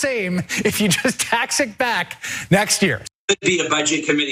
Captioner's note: laugh